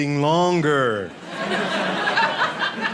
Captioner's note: audience laughing